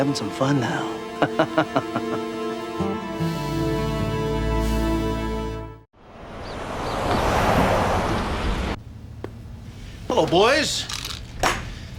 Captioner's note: laughs